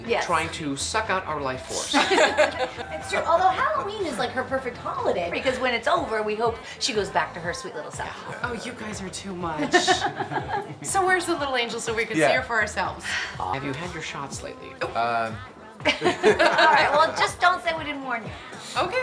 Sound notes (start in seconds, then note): 1.8 all laughs; 9.6 Julie laughs; 15.8 all laugh